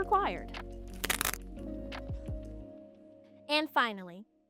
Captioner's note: mustache ripping